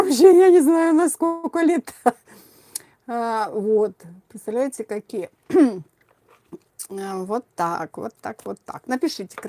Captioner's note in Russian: откашливается